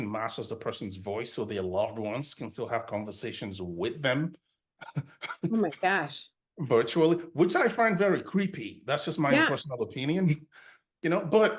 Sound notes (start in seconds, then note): 4.8 laughs